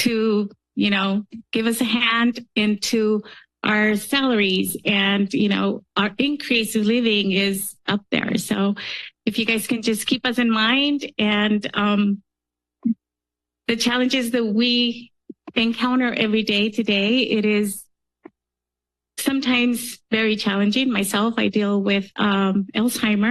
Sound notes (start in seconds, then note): 12.8 pause; 18.3 pause